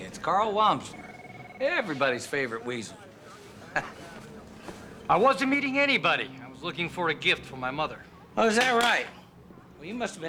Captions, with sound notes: It's Karl Wamsler. Everybody's favorite weasel. (chuckling) I wasn't meeting anybody. I was looking for a gift for my mother. Oh, is that right?